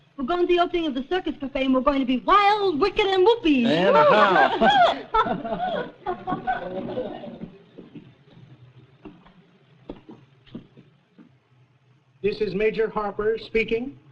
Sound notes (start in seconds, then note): 6.8 laugh; 7.7 footsteps